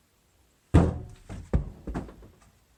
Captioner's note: door scrape noise, followed by object bouncing on floor